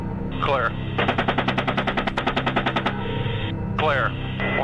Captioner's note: helicopter guns rattle and burst